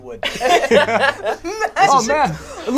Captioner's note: all laugh